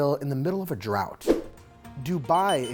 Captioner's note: screen whooshing